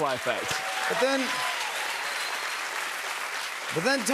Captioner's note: cheers and applause